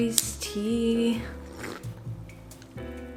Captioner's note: sips